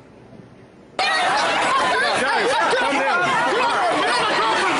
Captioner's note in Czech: hluk davu